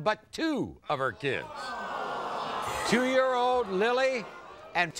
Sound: audience groans

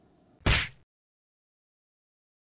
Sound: slap Sound

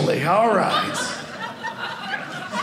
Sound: audience laughing

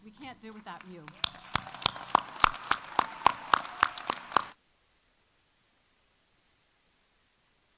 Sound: audience applauding; audience cheering

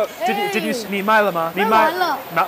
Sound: Mandarin

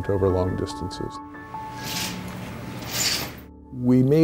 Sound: curtain rattles

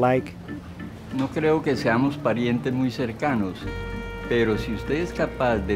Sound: speaking in foreign language

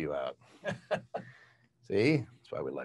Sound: laughs

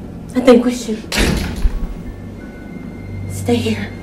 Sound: door closes

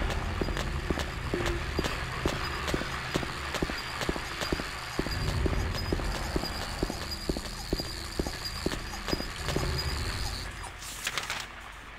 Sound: loud mechanical noise and radio static

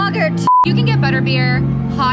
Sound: beep

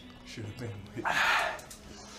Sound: hard Exhale

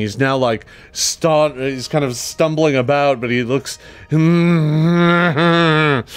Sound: groans

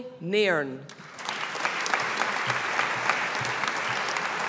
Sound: audience applauding

